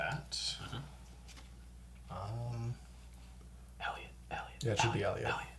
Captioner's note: whispering